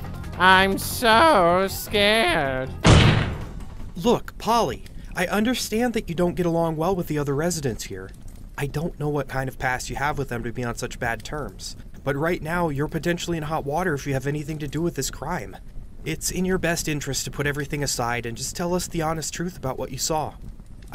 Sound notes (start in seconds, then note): 2.7 music fades out; 2.8 slam